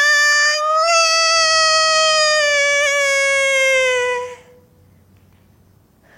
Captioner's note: and that cry turns into a newborn baby's cries and sobs